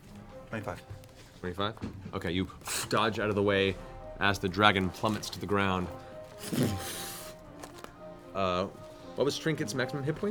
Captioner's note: heavy impact